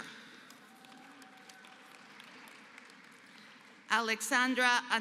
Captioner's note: applause